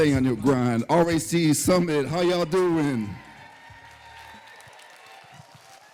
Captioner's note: applause